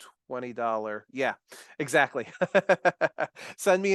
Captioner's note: chuckles